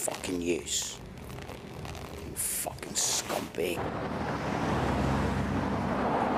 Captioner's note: urine spraying